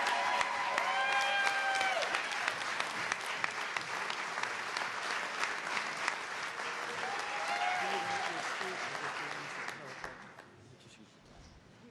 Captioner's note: cheers and applause